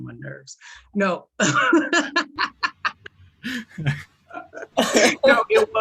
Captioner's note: laughter